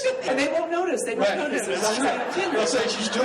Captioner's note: laughs